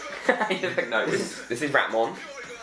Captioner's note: laughing